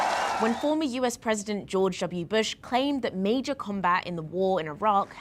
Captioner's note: cheers and Applause